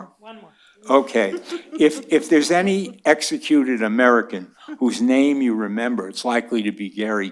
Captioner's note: laughter